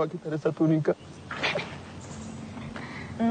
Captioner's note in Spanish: Risas